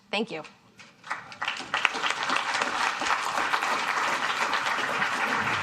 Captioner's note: applause